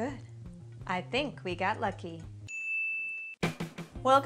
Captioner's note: DIng